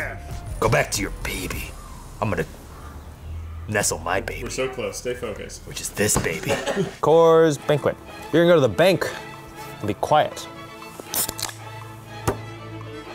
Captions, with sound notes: Go back to your baby. I'm gonna- Nestle my babies, which is this baby. [laughing backstage] Coors Banquet... you're gonna go to the bank and be quiet [can opening]